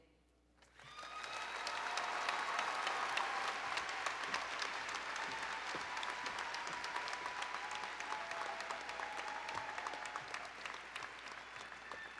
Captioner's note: applause and Cheering